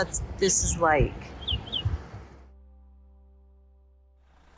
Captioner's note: birds chirping